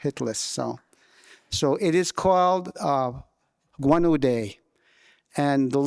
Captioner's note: speaking in</b> <b>Wolastoquey